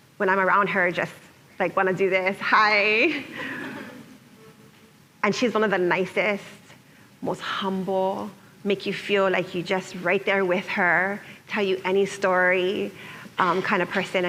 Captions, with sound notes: when I'm around her, just like want to do this, hi. [laughter] And she's one of the nicest, most humble. Make you feel like you're just right there with her. Tell you any story kind of person